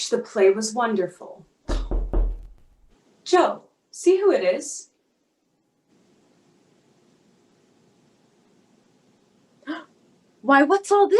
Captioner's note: knock